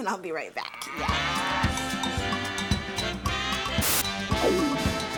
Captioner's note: cow moos